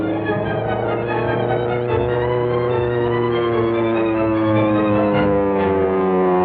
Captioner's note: plane engine whirs